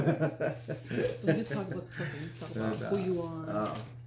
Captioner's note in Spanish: Risas